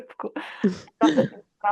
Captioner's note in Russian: смех